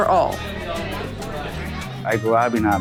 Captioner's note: crowd noise